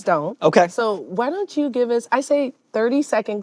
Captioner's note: none